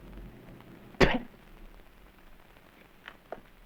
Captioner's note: spits